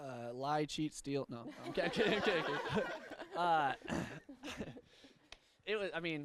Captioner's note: participants laugh